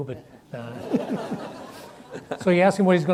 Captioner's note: audience laughs